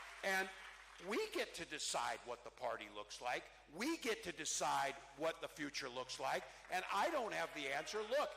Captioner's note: cheering